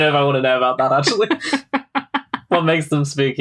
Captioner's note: laughs